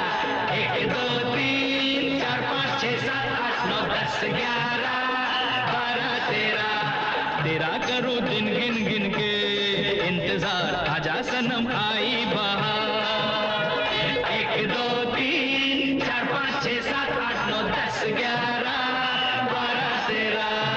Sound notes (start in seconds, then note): none